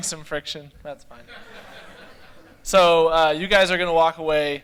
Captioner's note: laughter